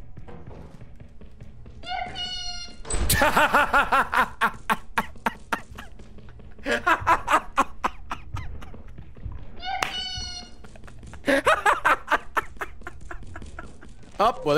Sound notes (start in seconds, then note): 1.9 metal pipe noise; 10.1 laughs